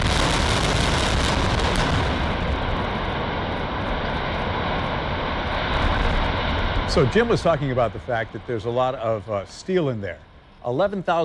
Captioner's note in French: explosion